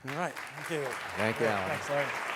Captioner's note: audience clapping